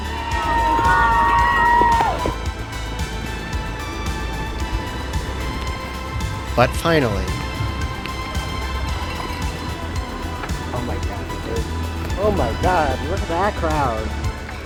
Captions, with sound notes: [cheering] ... but finally ... [quietly] oh my god, there's ... Oh my God, look at that crowd!